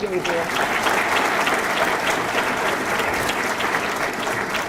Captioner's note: audience clapping